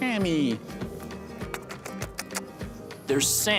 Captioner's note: kissing noises